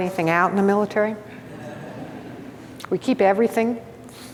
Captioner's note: audience laughs